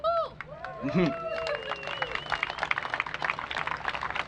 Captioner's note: applause